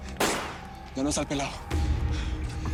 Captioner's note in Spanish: Disparos